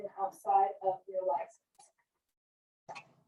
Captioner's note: none